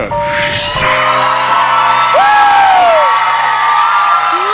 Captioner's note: audience cheering